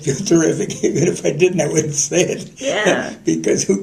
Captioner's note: laughter